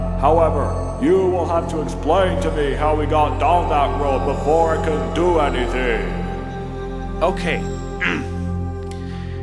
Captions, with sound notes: However, you will have to explain to me how he got down that road before I can do anything. Okay. (clears throat)